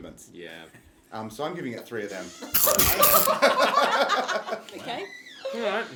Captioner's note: laughing